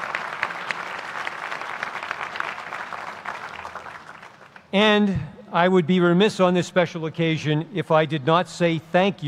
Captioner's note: applause